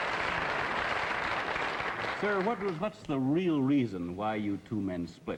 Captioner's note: applause